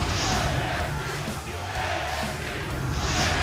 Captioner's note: fans chanting